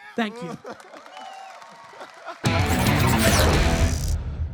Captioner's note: audience applause and cheers; upbeat music